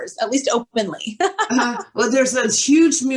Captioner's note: laughs